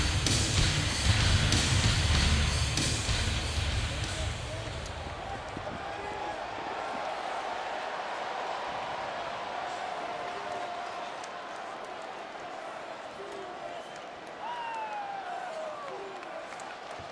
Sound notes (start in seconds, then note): 5.4 crowd murmuring